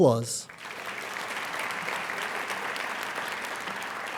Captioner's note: applauding